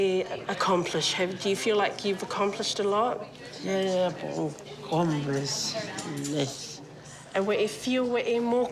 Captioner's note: speaks samoan